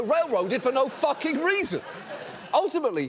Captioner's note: audience laughs